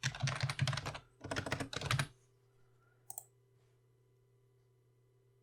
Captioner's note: typing sounds